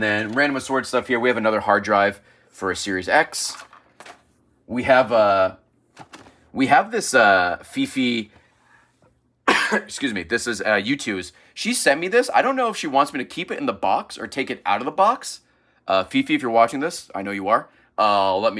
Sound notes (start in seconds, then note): 9.4 coughs